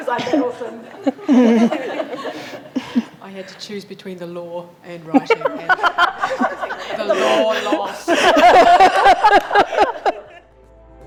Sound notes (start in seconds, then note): 1.6 group laughs; 8.5 group laughs